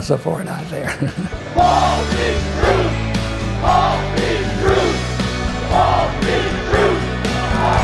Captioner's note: crowd chanting